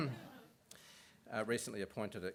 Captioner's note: laughter